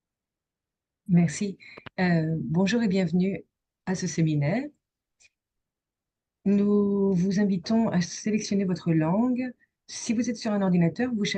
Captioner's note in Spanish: instrucciones en francés